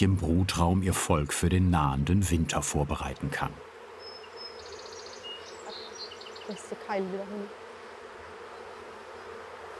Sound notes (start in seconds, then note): 3.8 humming, birds chirping; 6.4 conversation